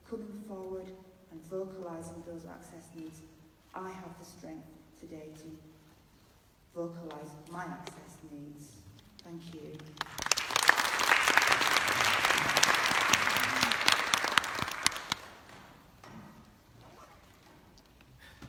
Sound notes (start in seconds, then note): 11.3 clapping